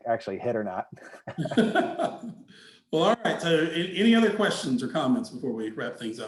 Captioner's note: laughing